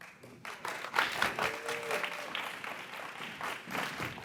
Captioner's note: audience applauds